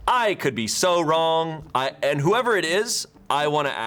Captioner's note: none